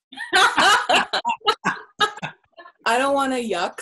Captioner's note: laughs